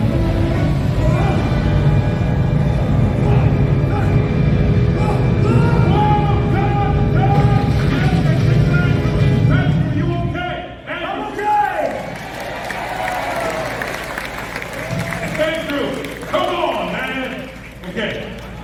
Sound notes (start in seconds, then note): 3.4 Indiana Jones grunts; 11.3 audience cheers and claps